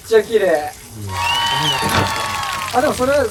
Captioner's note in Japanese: 効果音 拍手＆歓声